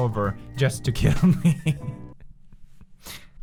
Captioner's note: chuckle